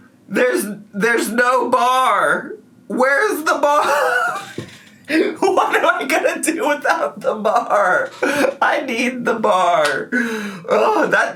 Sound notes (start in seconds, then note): 3.8 laughs